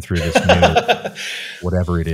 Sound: laughing

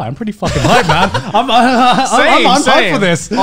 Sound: men laughing

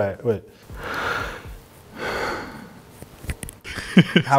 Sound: breathes

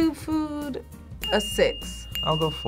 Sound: bell dinging

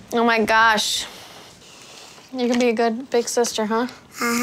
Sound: none

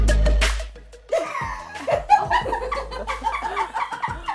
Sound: upbeat hip-hop music; laughter

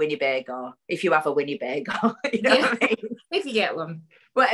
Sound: laughs

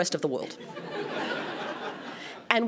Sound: laughter

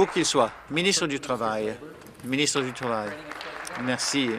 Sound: applause

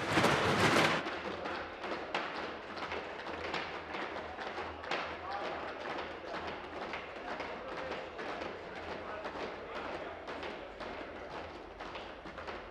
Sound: tapping

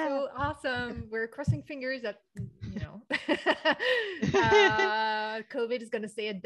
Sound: laughs

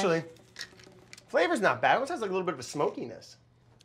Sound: none

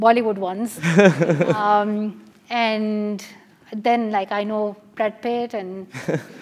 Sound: laugh; laugh

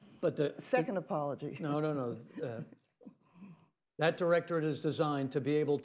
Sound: laughs

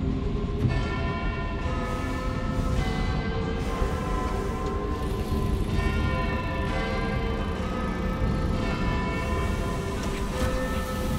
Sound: sound of bells

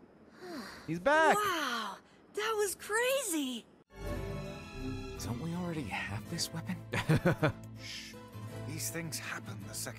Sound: laughs

